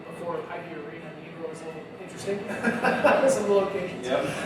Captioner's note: chuckles